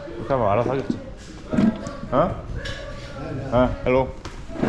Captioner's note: there seem to be a lot of men talking about something